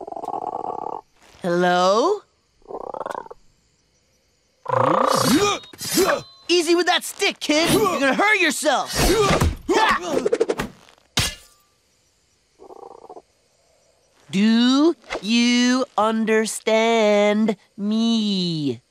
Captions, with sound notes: Hello? [grunting] Easy with that stick, kid. You're gonna hurt yourself! [grunting, whirring] Do you understand me?